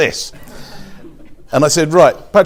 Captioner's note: audience laughs